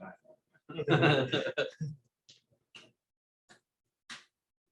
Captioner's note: laughter